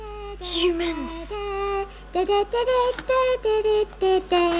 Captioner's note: child humming